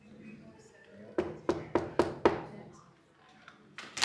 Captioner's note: knock at door